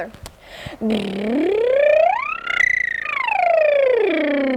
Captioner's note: lip burring sound